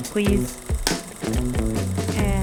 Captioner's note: slate claps